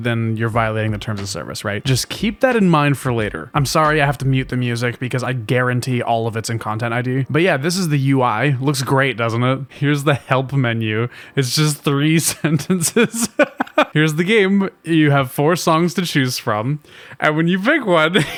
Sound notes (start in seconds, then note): 12.4 laughs; 18.2 laughing hard